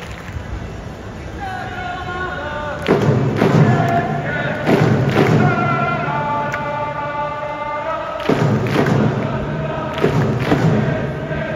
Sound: clap clap

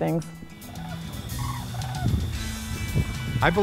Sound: geese call

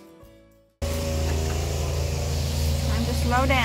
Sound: machinery

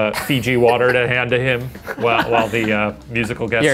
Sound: laughs

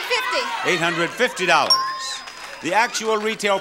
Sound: bell dings

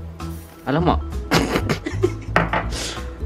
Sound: chuckles

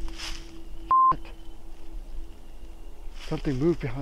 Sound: beep

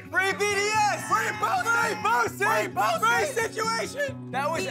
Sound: guys yelling

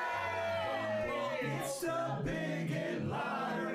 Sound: audience cheering

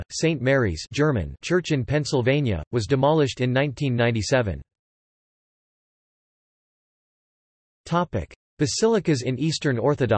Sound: German

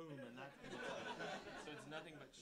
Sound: audience laughing

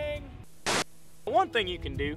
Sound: static

